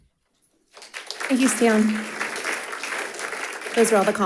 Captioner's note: audience applauding